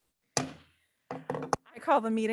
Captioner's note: gavel bangs